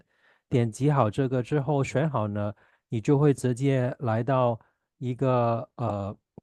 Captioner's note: chinese interpreter speaking Chinese